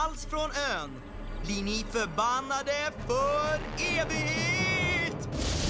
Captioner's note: spooky voice; thundering